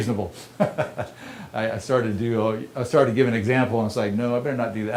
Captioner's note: laughter